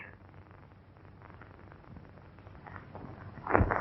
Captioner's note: fire crackling